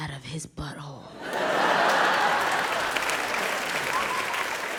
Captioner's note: audience laughs